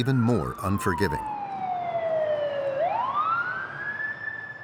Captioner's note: siren blaring